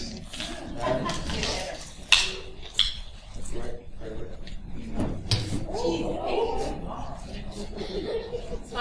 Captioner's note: background chatter